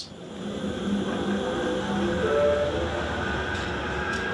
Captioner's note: tram whirring